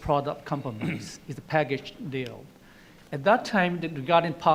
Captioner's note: clearing throat